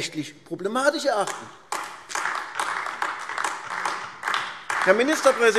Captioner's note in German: Beifall AfD